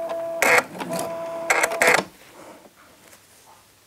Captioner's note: creaking noises